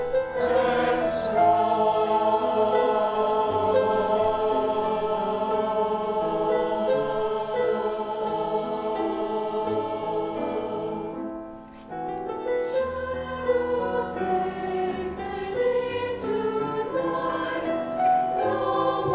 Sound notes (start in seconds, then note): 11.0 delicate, mournful piano music; 13.1 high voices